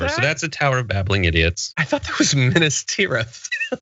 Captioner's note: laugh